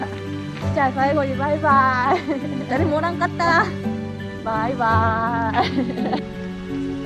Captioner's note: laughs